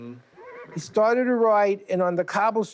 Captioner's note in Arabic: يصهل الحصان